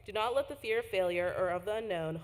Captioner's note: none